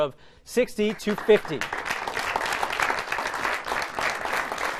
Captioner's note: applause